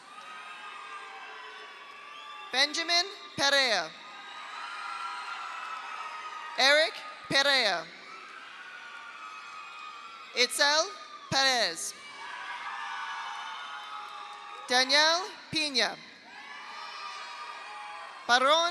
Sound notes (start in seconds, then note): 0.0 audience cheers; 0.1 audience applauds; 4.0 audience cheers; 4.5 audience applauds; 8.0 audience cheers; 8.3 audience applauds; 12.0 audience cheers; 12.6 audience applauds; 16.2 audience cheers; 16.4 audience applauds